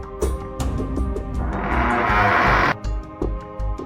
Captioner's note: door creaks open